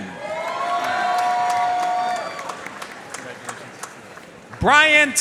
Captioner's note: audience cheering and applauding